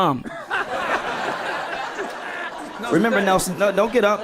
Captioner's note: people laughing